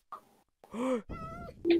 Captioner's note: gasp